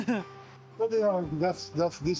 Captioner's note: laughs